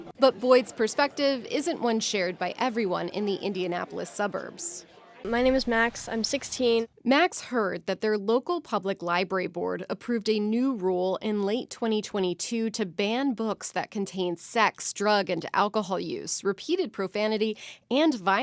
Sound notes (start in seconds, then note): 7.6 voice-over